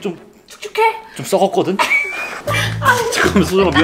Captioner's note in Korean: 웃음